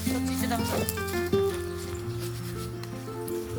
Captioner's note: laughs